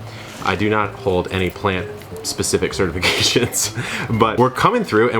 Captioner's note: laughs